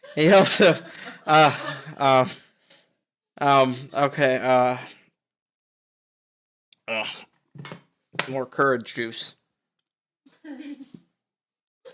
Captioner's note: laughing